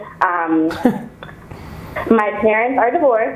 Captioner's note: Gary chuckles